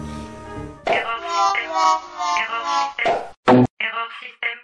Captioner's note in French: Voix de machine